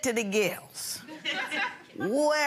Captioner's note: audience laughing